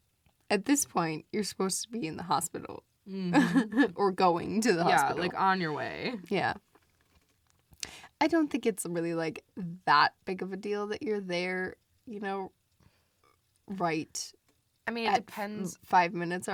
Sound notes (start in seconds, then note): 0.0 stammers; 4.8 laughs